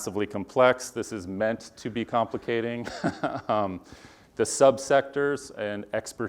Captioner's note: laugh